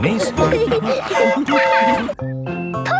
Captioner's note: train whistle toots